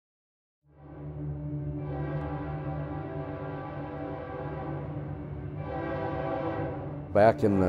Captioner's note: train horn blowing